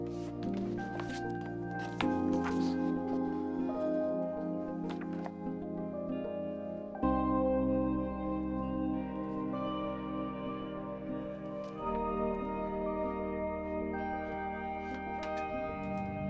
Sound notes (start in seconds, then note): 0.0 book rustling; 7.4 expressive electronic music; 16.0 piercing high-pitched tone over ominous electronic music